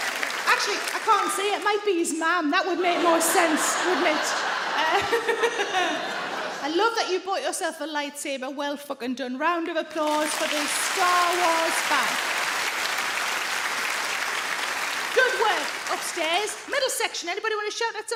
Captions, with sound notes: Actually, I can't see, it might be his mum, that would make more sense, wouldn't it (laughs)? I love that you bought yourself a light sabre, well f*cking done, round of applause for the "Star Wars" fan. (audience clap) Good work upstairs. Middle section, anybody wanna shout out